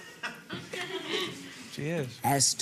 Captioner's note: audience laughing